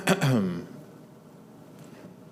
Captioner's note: clears throat